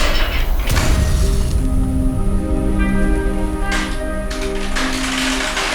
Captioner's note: gate clattering; soft dramatic music